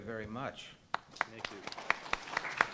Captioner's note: panelists and audience clap